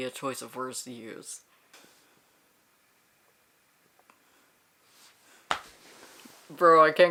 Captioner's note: silence